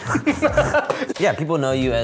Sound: laughs

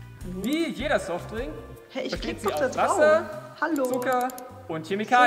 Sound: mouse clicks

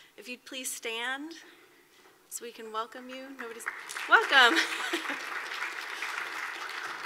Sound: applause

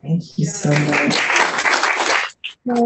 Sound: applause

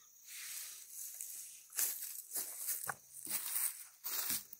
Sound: leaves rustling

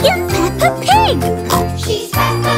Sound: oink; singing

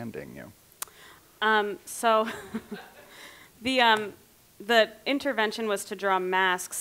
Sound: clicks lips

